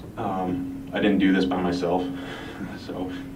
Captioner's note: chuckles